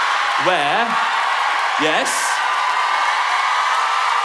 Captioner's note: laughing and cheering